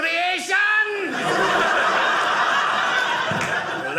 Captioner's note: audience laughing